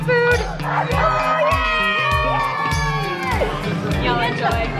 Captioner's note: upbeat music; family cheering